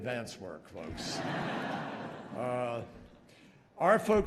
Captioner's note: laughter